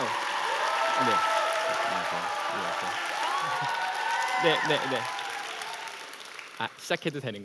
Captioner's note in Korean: 박수와 환호